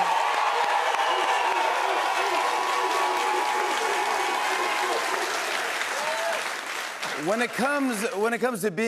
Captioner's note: cheers and applause